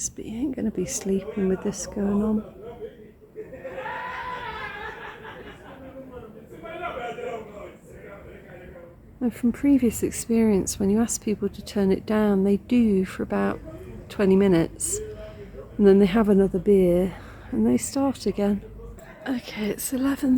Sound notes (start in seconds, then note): 3.4 very loud shouting